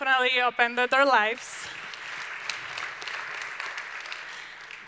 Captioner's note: audience applauds